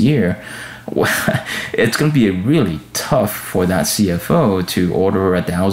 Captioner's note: chuckles